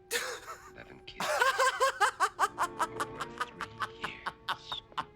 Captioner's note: laughing